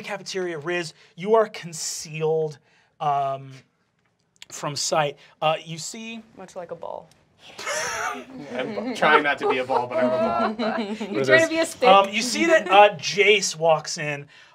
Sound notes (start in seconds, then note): 7.5 laughs; 10.3 laughter